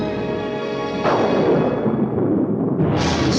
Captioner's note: thunder crashing; dramatic ominous music